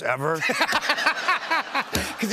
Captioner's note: laughs